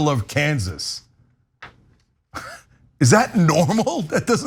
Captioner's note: laugh